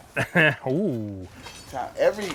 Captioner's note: laughs